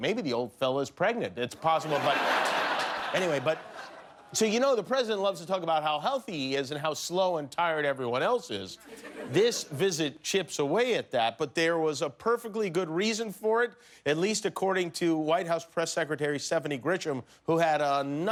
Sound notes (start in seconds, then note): 5.5 laughter